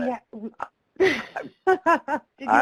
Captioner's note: laughing